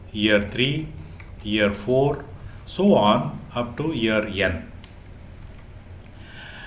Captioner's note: ticks